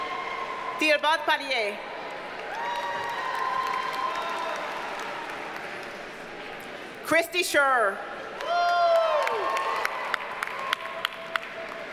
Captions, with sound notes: Thibault Paillier. (audience cheers and applauds) Kristy Scheurer. (audience cheers and applauds)